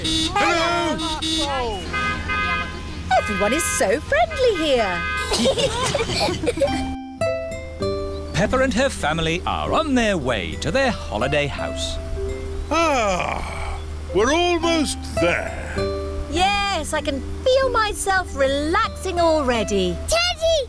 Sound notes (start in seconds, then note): 0.0 honking; 0.0 italians honk back; 5.2 all giggling